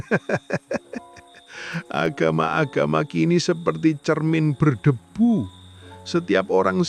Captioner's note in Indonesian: tertawa